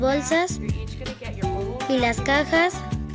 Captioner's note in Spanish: hablando inglés